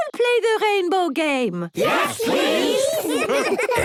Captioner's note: laughter